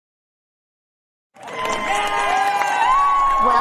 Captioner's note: applause and cheering